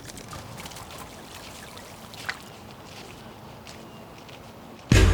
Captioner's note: stone skipping on water